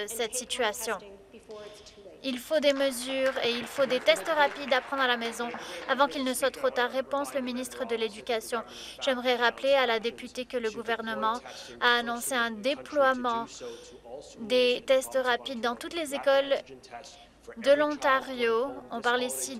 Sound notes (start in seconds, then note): 6.4 applause